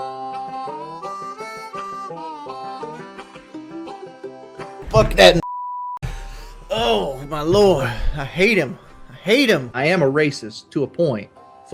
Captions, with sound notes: (country music) - Fuck that (beep) Oh my Lord. I hate him. I hate him. I am a racist to a point.